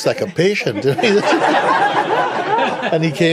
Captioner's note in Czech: smích